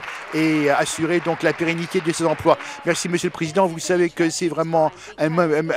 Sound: applause

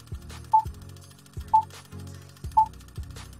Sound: beeping

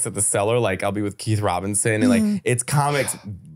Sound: laughing

